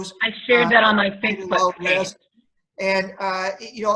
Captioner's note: murmurs